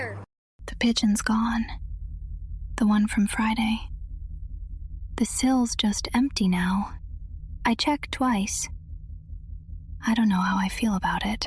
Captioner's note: whispers